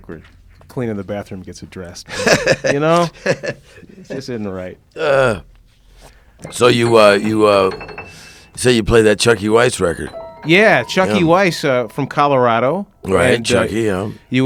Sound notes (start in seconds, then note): 2.1 laughing